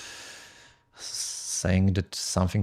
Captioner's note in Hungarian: sóhaj